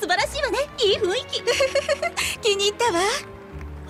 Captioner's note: giggles